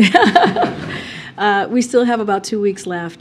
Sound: laughs

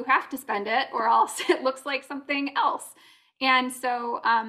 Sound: laughter

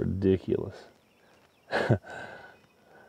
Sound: laughs

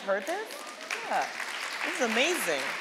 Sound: audience applauding

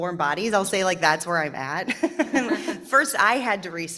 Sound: panel chuckling

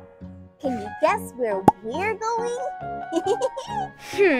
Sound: laughs

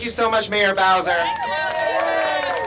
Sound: applause

